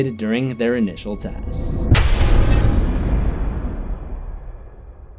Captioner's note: thunder